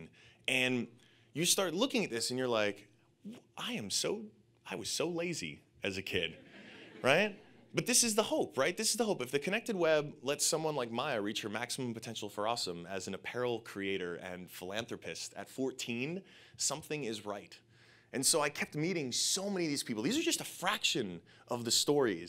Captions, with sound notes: And you just start looking at this, and you're like, I was so lazy as a kid, right? (audience laughing) But this is the hope, right? This is the hope, if the connected web lets someone like Maya reach her maximum potential for awesome as an apparel creator, and philanthropist at 14, something is right. And so I kept meeting so many of these people. These are just a fraction of the stories,